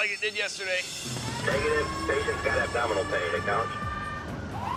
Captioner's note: siren wailing